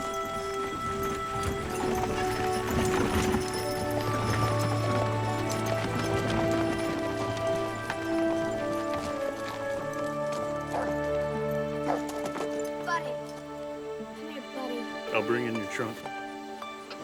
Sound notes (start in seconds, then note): 10.0 dog Barking